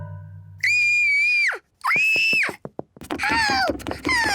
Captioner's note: squeals